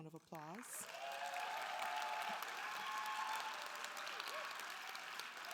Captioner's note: audience cheering and applauding